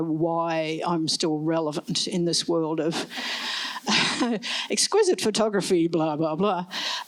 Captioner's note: laughs